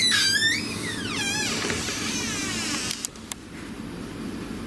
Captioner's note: door creaks